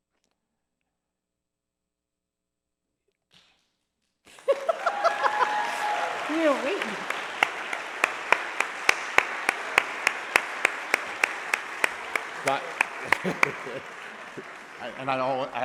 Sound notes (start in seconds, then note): 0.9 laughing; 13.0 laughing